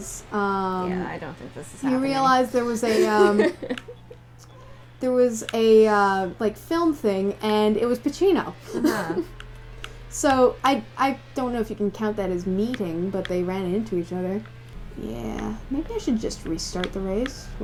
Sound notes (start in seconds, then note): 2.8 laughter; 8.7 laughter